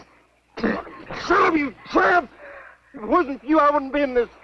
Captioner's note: Liz spitting